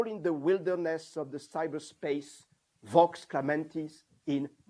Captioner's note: non-english